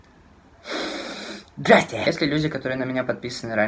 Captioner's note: inhales intensely